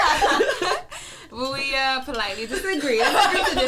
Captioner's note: laughing; all laugh